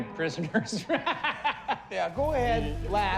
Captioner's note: laughs